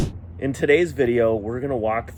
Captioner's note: graphics whooshing; graphics slapping